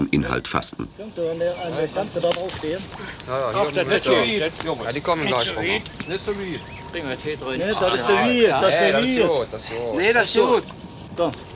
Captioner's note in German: Arbeitsgeräusche und -gespräch